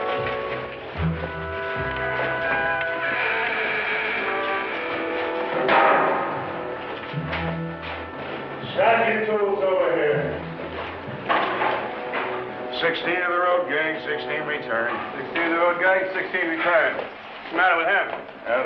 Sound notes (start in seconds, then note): 2.5 gate creaks, clangs